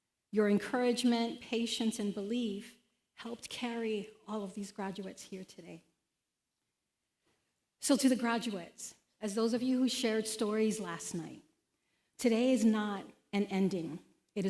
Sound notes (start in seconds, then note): none